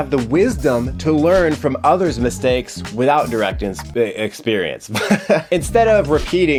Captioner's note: laughs